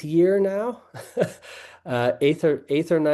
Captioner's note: laughing